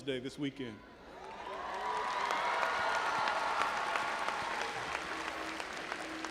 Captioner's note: audience applauding and cheering